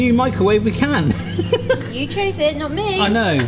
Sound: chuckles

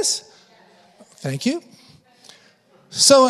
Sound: congregation affirming

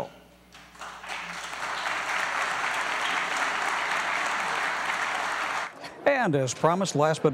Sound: applause

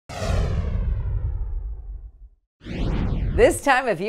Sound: explosion sound effect

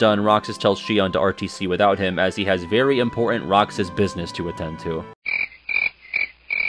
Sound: crickets

